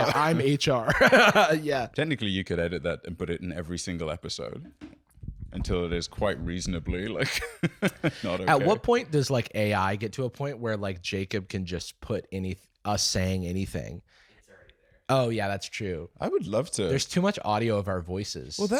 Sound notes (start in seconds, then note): 7.4 laughing